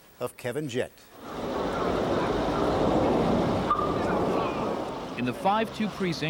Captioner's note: sounds of traffic